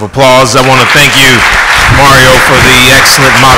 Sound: audience applauds

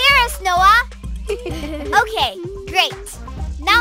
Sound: chuckling

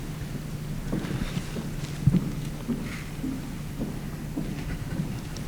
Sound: foot steps approaching

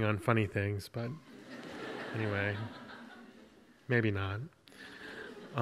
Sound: audience laughs

